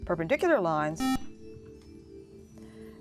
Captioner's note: buzzer